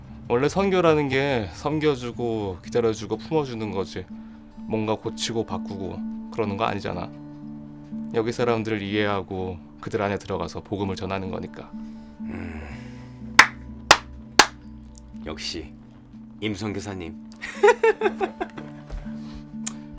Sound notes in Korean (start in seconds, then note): 12.3 콧방귀; 17.4 웃음